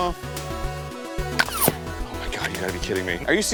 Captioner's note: groans; pew